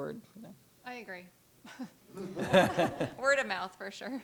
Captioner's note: laughter